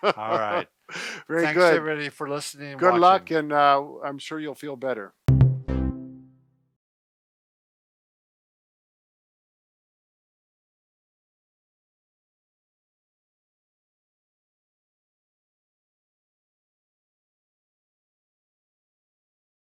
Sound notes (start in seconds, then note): 0.0 men laughing; 5.3 pleasant binging